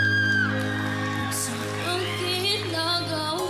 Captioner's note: audience cheering